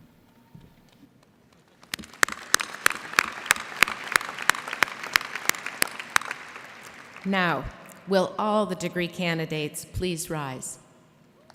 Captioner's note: applause